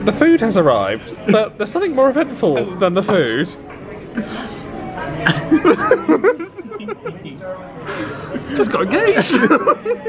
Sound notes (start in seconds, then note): 5.2 giggling